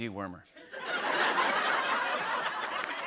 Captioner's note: laughter